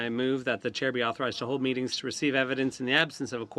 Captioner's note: speaking french